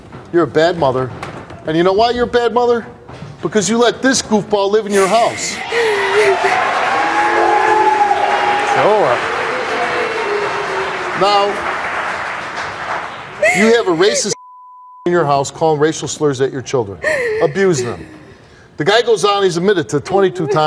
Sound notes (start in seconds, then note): 5.0 audience cheers, applause